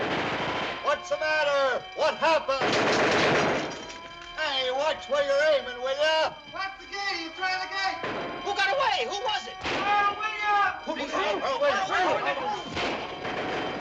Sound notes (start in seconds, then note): 2.5 gunfire; 9.9 excited chattering